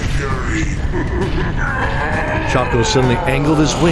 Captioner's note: laughs then groans as he strains against the force